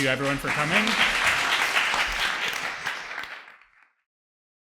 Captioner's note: audience applauds